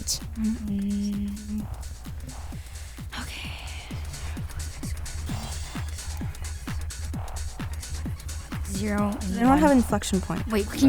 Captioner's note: wispering